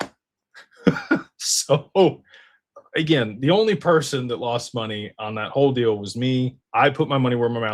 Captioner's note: laughter